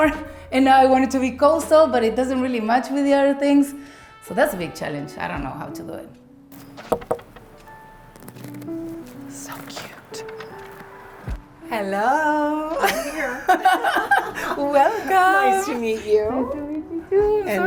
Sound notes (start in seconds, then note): 6.8 knocking; 12.8 both laugh